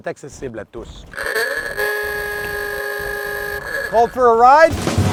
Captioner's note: old horn